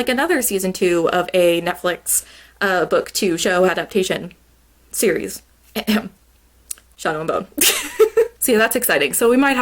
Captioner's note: cough cough